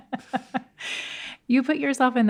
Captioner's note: laughs